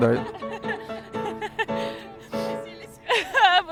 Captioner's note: laughter